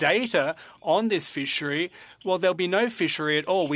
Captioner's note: speaking French